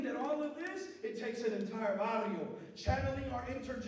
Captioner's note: non-english speech